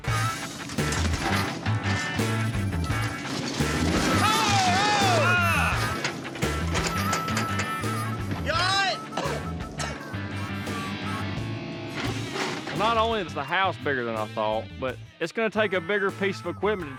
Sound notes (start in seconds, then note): 0.0 clattering sounds; 8.7 coughing